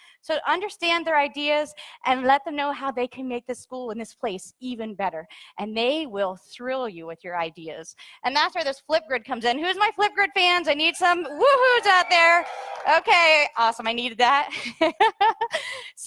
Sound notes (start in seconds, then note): 11.0 audience cheers; 15.4 laughs